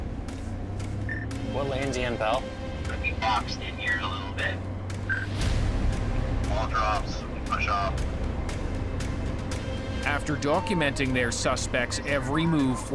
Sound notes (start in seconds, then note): 5.2 officer over radio; 8.1 dramatic music